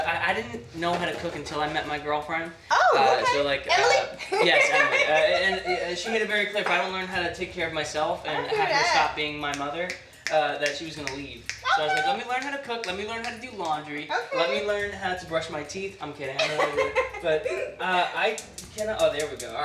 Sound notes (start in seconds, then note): 3.8 laughs; 16.4 laughs